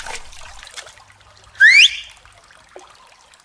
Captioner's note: Xiao Chiye whistles~